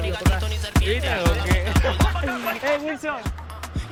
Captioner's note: laughter